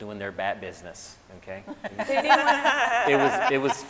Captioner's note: scientists laughing